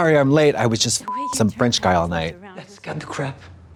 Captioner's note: beep